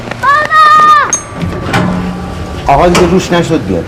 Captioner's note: elevator alarm